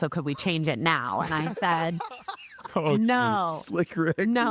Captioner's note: laughing